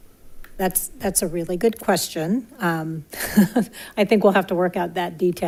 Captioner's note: laughs